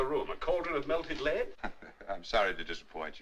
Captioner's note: chuckles